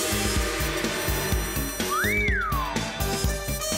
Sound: wolf whistles

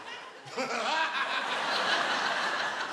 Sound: laughs

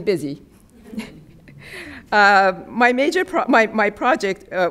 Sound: chuckling

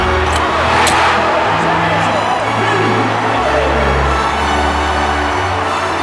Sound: triumphant instrumental music; cheering

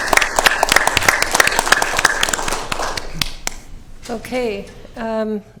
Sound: applause

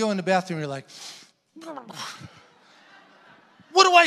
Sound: groans; congregation laughing

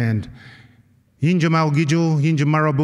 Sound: non-english-speech

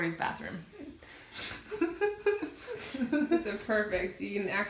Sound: laughter

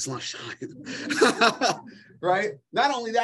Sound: laughter

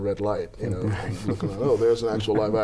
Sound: laughter

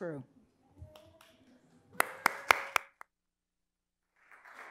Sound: audience applauds

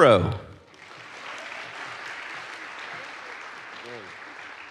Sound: audience applauds

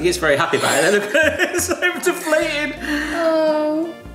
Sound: laughs

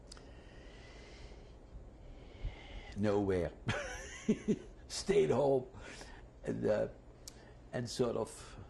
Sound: sighs; laughs

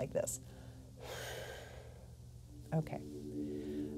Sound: breaths out

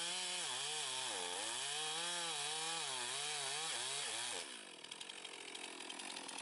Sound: sound of Chainsaw in Operation

